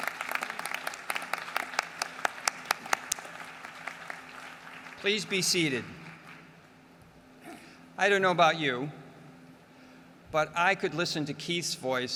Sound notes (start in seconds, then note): 0.0 applause